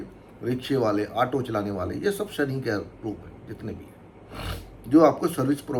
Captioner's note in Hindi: नाक से की जाने वाली आवाज़